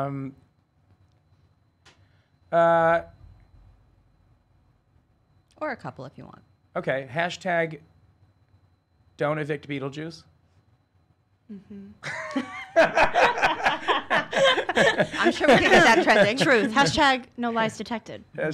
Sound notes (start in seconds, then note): 12.0 laughing